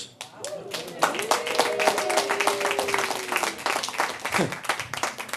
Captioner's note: audience applauding